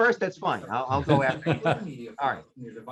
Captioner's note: laughing